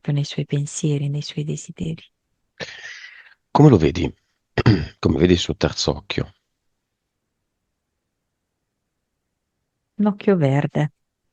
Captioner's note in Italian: schiarire la voce